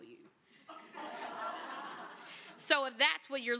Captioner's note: laughter